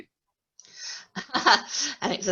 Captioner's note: laughter